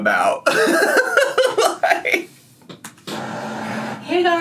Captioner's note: laughs